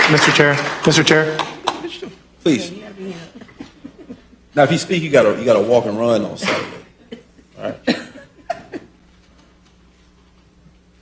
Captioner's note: applause